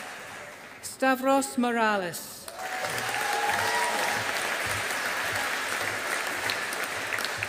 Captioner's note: audience applauding